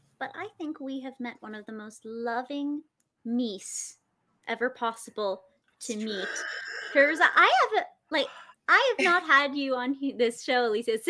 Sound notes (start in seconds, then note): 6.2 imitates moose roaring